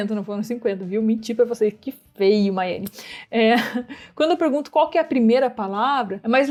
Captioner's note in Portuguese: risos